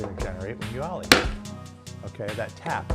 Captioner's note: skateboard tapping